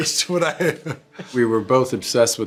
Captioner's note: laughs